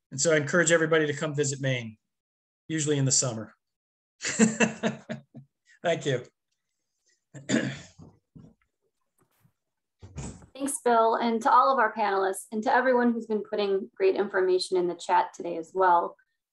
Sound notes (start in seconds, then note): 4.3 laughs; 7.3 clearing his throat